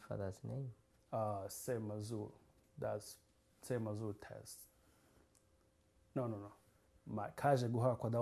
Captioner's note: non-english